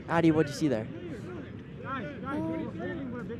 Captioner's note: none